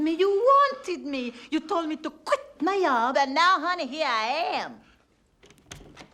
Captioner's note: swedish Accent